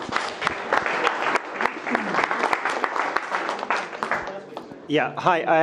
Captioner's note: attendees clapping